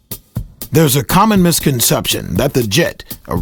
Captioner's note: voiceover